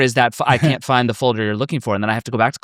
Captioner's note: chuckles